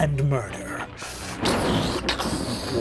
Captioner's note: thunder booming